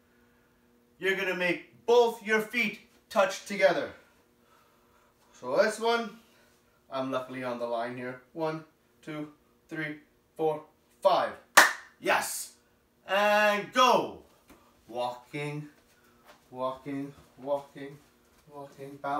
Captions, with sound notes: You're going to make both your feet touch together. For this one, I am luckily on the line here. One Two Three Four Five (Claps) Yes ! And go walking, walking, walking, walking, balancing